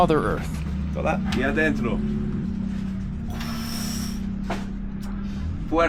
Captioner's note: speak foreign language